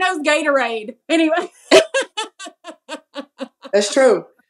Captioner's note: laugh